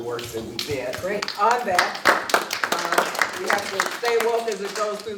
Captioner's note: applause